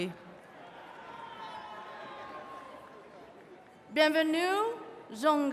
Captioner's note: attendees cheering